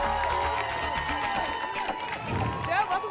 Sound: applause and cheering

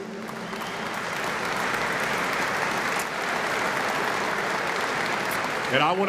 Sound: applause

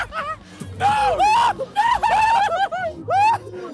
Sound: laughing; screaming

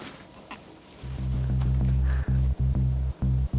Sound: shh-shh

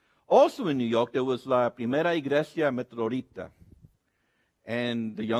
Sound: speaks Spanish

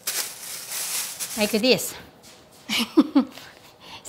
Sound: laughs

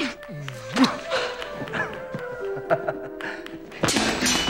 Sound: chuckles

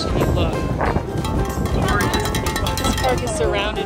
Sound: bell rings

